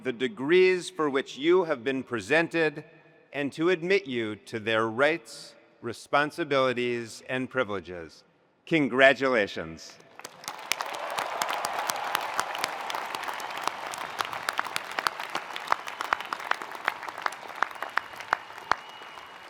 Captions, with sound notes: the degrees for which you have been presented and to admit you to their rights, responsibilities, and privileges. Congratulations. (attendees applauding) (attendees cheering)